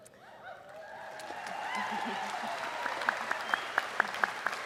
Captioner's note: applause and cheering